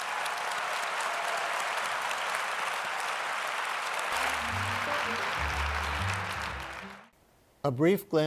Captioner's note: applause